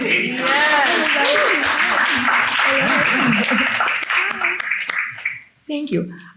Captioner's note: attendees cheer and clap